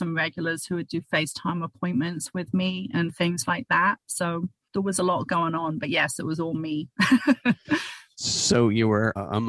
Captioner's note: laughter